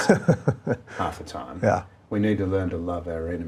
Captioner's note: laughing